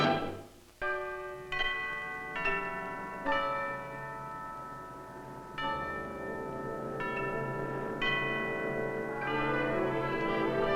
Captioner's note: bell tolling